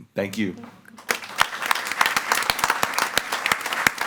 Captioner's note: all applauding